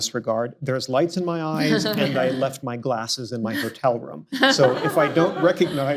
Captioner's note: laughter